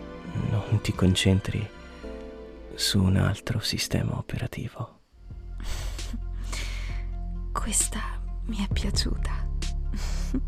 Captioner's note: chuckles